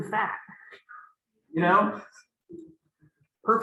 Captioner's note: laughter